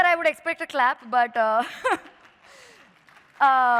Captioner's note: applause